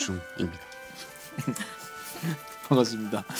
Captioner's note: laughter spreads